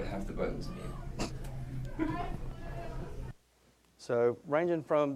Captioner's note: scattered chuckling